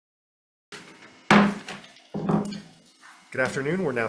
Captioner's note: gavel bangs